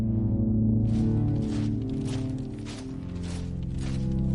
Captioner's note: footsteps marching